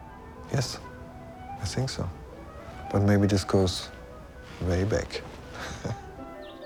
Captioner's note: chuckles